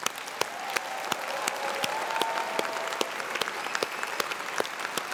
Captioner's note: all applauding and cheering